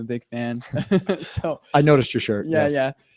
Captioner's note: laughter